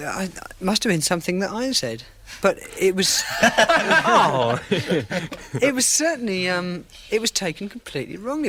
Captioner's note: laughter